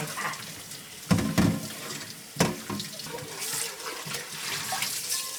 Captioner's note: water running